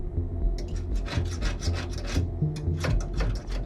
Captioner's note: scraping